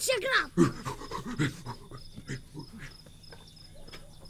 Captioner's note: neanderthal panting